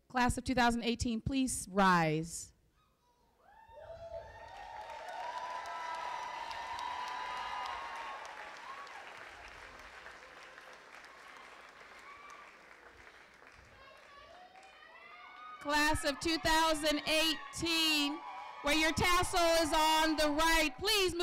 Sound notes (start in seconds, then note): 4.2 applause